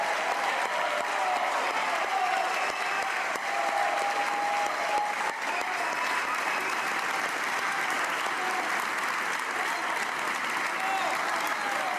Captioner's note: applause